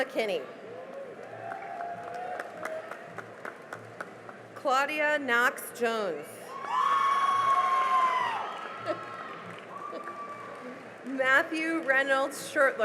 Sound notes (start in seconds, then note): 0.6 cheering and applause; 6.4 cheering and applause